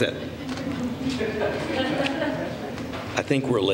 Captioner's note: laughter